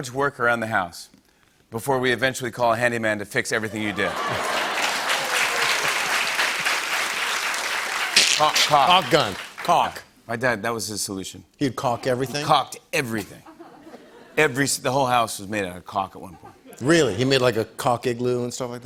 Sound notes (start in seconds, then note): 3.6 laughter and applause